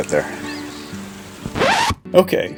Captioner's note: record scratch